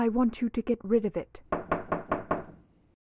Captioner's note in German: Klopfen